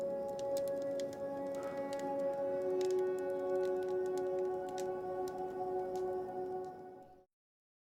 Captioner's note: sighs